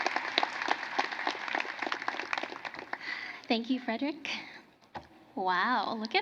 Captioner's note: cheering and applause